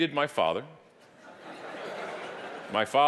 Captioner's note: audience laughing